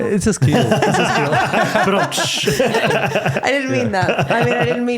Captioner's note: laughing